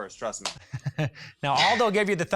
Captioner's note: laughing